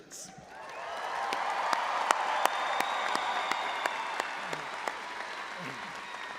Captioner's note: all applauding and audience cheering